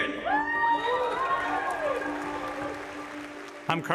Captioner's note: audience cheers